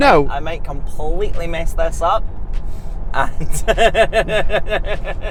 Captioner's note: laughing